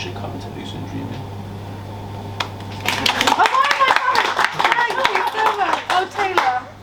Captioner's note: applause